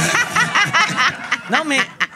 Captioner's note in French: rires